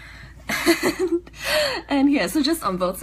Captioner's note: laughs